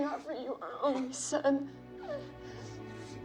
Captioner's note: crying